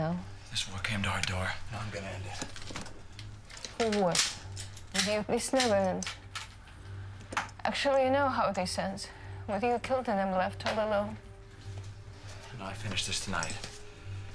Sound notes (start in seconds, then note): none